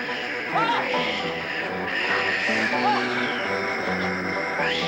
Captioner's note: intense music; Will yelling; Sleestak wheezing